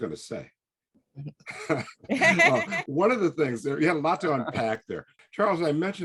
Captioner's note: laughing